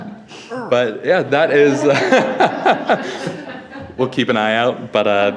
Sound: all laughing; laughs

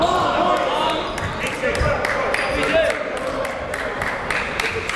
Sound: crowd yelling and applauding

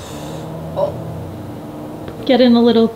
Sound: Maxwell hisses; Maxwell growls

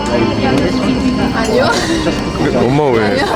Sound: laughing

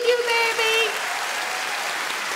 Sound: audience applauds

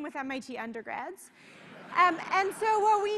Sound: laughter

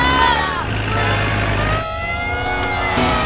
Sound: police sirens blaring

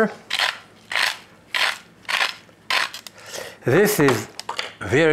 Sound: grinding pepper

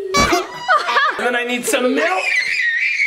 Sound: child laughing; horn beeping; person laughing; child screaming

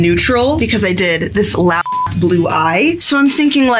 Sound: beep

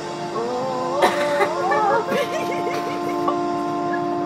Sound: laughter and chatter

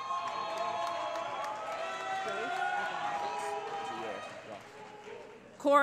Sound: cheering

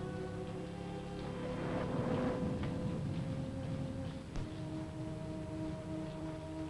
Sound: pensive music; thunder rumbling

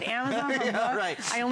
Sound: laughter

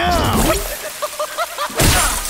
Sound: laughing

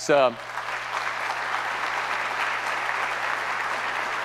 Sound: audience applauds

